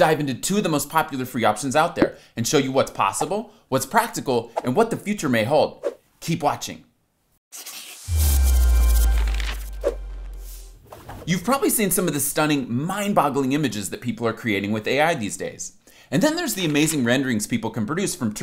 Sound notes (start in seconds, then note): 7.5 pencil scribbles; 8.1 harmonious music; 10.0 frame whooshes